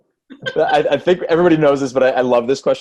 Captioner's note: laughs